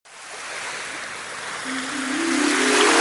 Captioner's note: water churning; upbeat piano music playing